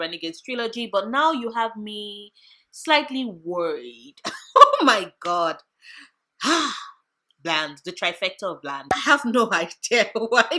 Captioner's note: sigh